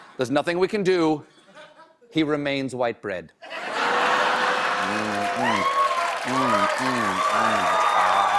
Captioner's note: cheers and applause